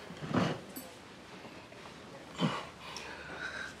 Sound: grunts

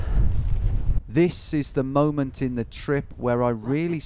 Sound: voiceover

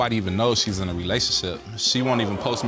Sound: audience gasping

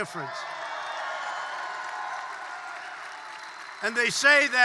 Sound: applause

